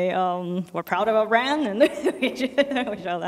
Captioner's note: laughs